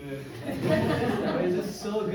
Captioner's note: crowd laughs